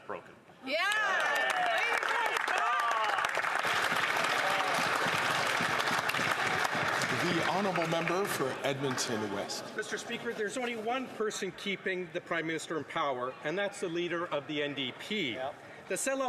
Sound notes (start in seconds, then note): 3.8 some Applause